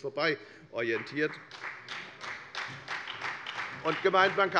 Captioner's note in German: Beifall bei der FDP und bei Abgeordneten der SPD